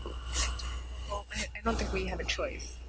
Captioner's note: microphone cutting out